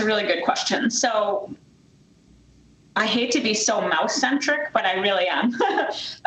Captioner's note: laughs